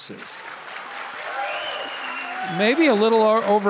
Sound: audience cheering and applauding

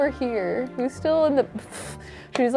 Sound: scoffs

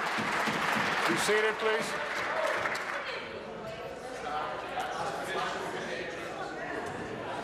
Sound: applause

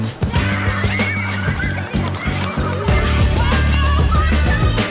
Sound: children chattering; children screaming

